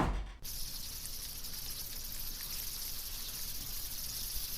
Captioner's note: insects buzzing